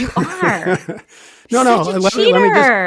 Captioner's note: laughing